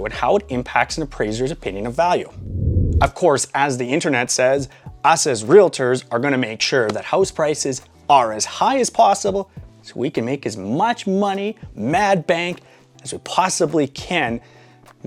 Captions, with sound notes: and how it impacts an appraiser's opinion of value. (air whooshing) Of course, as the internet says, us as realtors are gonna make sure that house prices are as high as possible. So we can make as much money mad bank as we possibly can.